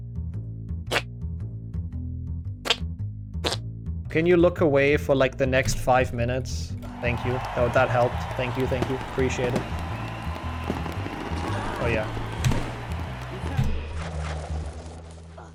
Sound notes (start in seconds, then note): 0.9 fart sound; 3.4 fart sound; 9.9 cheering sound